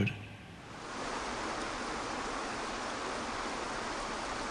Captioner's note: water splashing